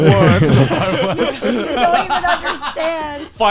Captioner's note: all laughing